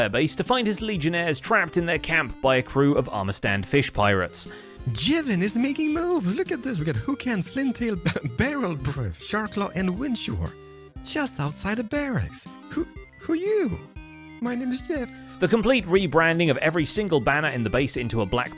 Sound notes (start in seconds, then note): 7.6 laughs